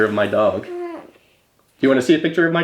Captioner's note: moans